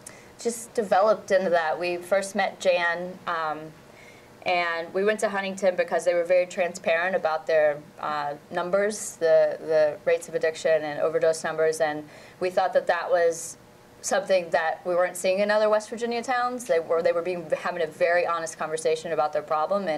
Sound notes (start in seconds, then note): none